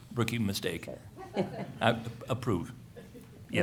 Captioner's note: laughter